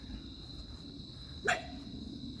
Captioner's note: dog barks